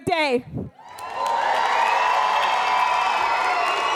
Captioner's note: audience cheers